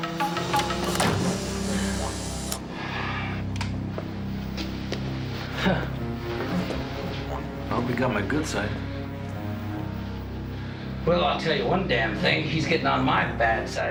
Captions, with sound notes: (camera shutter clicks) (both sighing) - Huh. I hope he got my good side. - Well, I'll tell you one damn thing. He's gettin' on my bad side, this bastard.